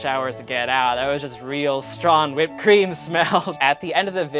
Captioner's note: laughs